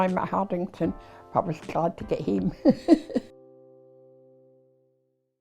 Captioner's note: laughing